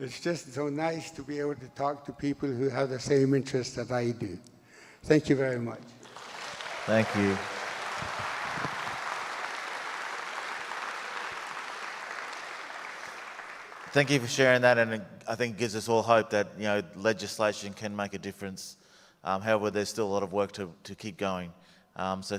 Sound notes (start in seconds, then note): 6.3 audience applauds